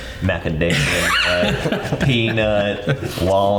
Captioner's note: all laughing